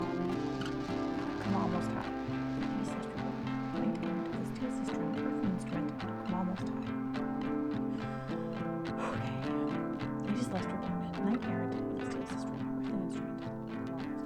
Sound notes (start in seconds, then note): 0.0 muttered; 10.2 muttered